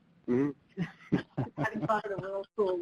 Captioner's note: laughing